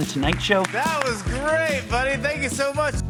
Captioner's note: crowd clapping